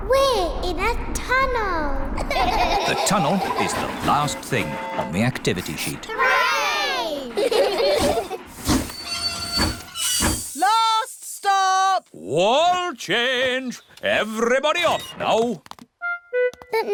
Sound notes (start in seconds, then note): 2.2 all laugh; 6.9 laugh; 8.3 train chugs